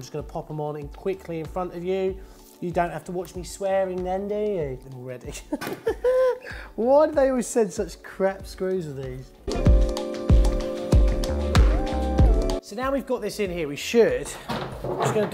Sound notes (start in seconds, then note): 5.6 laughs; 9.5 bright music